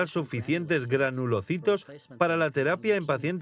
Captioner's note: murmuring